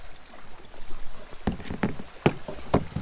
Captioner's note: clunk